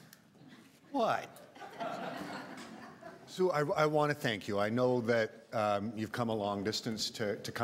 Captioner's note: laughter